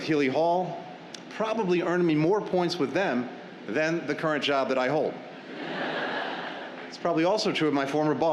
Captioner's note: laughter